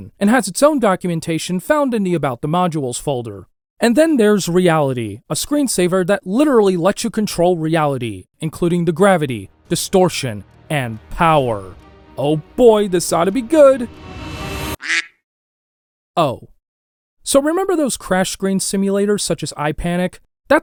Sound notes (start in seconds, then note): 13.9 music intensifies; 14.8 duck quack sound effect